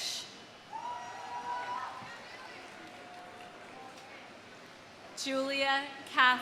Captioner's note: audience cheering; audience applauding